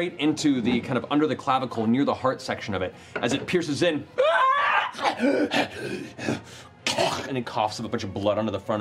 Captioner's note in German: schreit